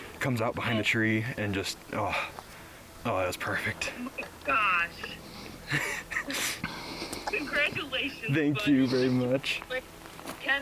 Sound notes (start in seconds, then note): 5.6 laughs